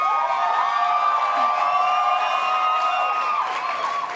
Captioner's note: cheering